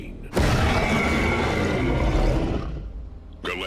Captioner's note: creature roaring